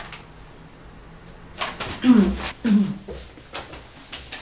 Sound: clears her throat

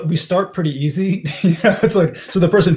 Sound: laughs

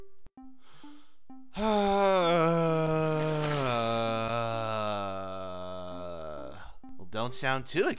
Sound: Pear lets out a long exasperated sigh

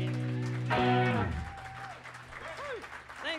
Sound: ending note fades; cheers and applause

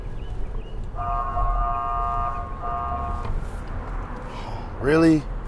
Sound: police siren blaring

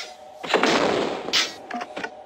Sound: boom

